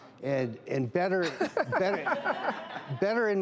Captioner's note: women laugh